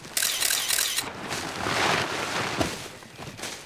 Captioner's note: camera shutter clicking